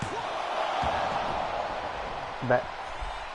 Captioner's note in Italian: Applauso